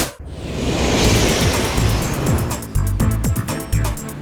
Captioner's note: plane flying